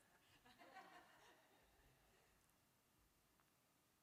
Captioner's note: laughter